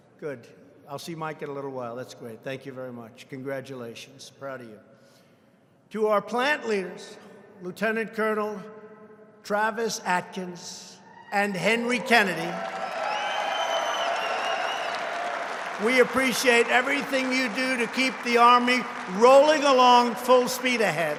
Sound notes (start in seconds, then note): 13.1 applause; 20.9 applause